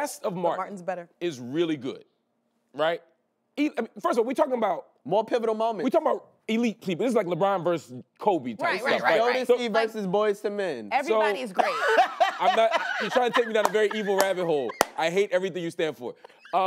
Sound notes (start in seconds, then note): 11.5 laughing